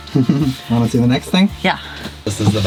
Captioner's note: laughs